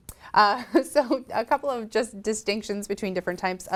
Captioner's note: laughs